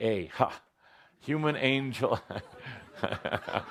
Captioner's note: laughter